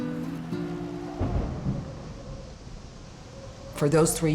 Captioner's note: thunder